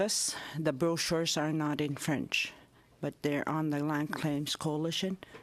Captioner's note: speaking native language